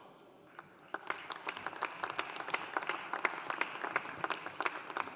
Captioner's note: audience applauding